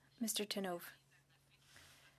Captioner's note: speaking French